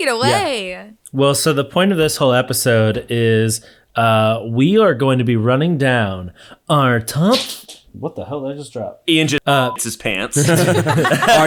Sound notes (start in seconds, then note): 9.6 beep; 10.4 everyone laughing